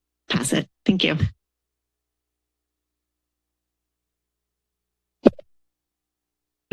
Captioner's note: silence